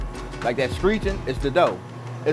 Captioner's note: machine humming